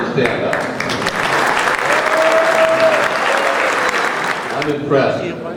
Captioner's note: crowd applauding